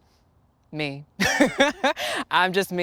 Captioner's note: laughing